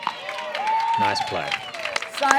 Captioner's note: applause